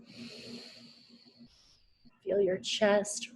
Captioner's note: inhales